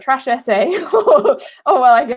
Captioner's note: laughing